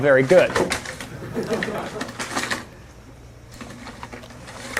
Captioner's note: class chuckles